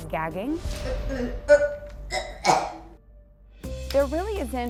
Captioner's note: gagging noises